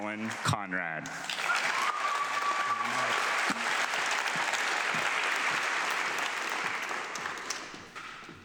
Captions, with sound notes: Collin Conred. (audience clapping)